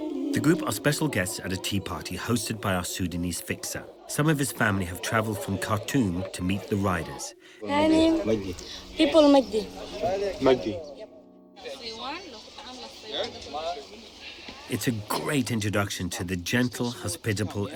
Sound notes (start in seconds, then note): 11.2 crowd chatting